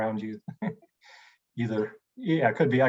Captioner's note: laughs